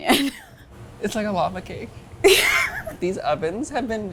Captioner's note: laughs